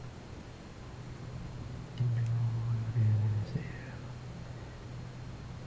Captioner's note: foregin language